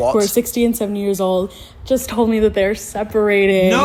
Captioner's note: none